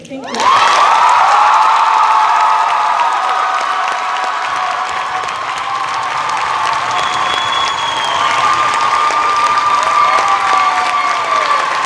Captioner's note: cheers and applause